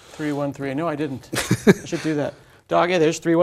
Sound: laugh

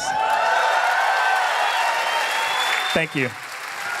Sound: cheers; applause

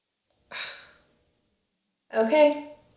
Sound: Lynne sighs

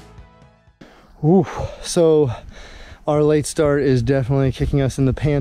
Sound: sigh

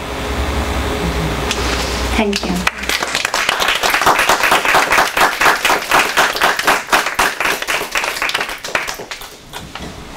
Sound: audience applause

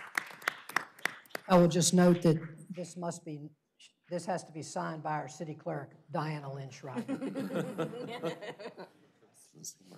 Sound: applause

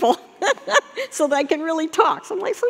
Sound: laughing

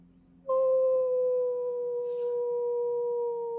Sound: Deborah howls

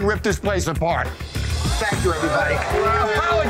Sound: cheers

